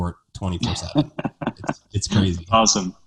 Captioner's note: laughing